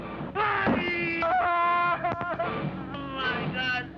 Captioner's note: cries out